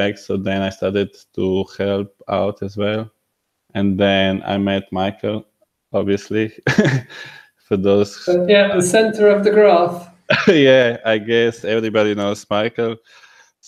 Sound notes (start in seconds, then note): 6.5 laughs